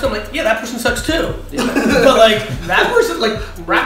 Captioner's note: laughs